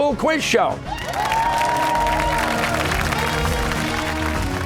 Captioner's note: cheers and applause